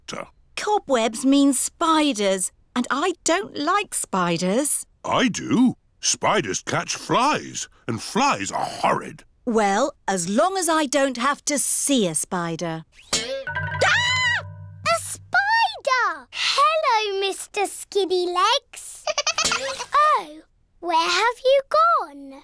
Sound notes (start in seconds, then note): 12.6 screams; 19.0 giggling